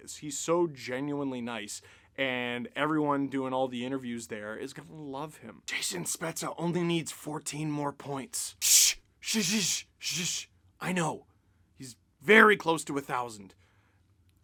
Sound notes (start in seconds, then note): 6.7 whispers